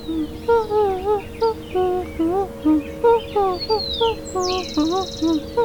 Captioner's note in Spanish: tarareo